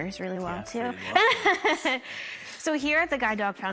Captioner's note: laughs